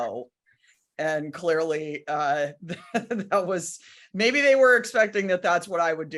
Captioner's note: laughs